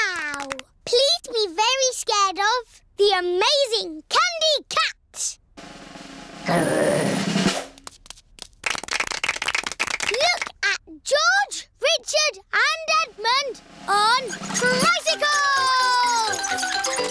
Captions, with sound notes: Now, please be very scared of the amazing Candy Cat! Grr! (APPLAUSE) Look at George, Richard and Edmond, on tricycles!